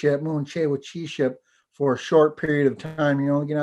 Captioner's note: foreign language